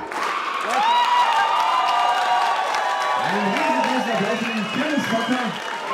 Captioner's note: applause